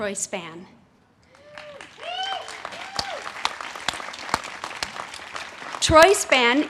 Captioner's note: audience cheers and claps